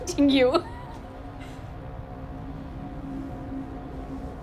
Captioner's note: Casey chuckles